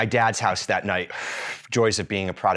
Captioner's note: exhales